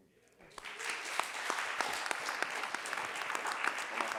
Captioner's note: audience applauding